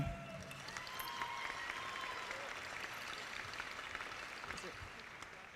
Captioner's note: audience applauding